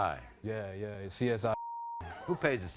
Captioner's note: beep